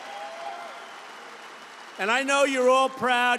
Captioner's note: applause